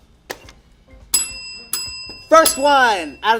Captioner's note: bell rings